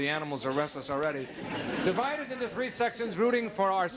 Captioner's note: audience laughing